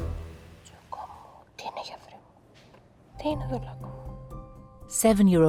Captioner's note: speaking in a foreign language